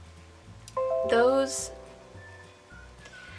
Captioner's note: computer boop boop noises